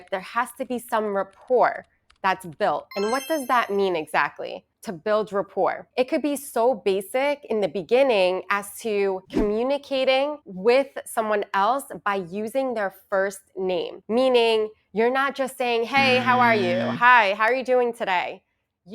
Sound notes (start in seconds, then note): 2.9 chimes ringing; 16.0 buzzer ringing